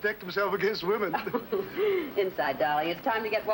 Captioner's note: chuckling